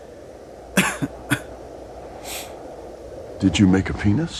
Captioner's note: coughs